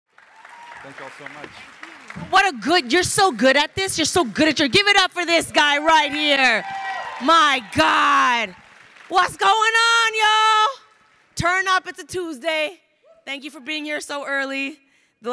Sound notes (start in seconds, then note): 0.9 crowd applauding; 6.5 crowd cheering and applauding